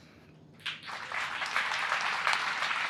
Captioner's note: applause